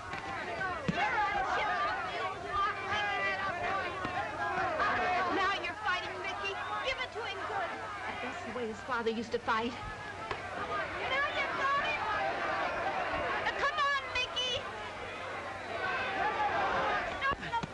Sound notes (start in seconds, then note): none